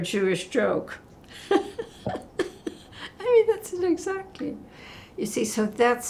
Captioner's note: laughing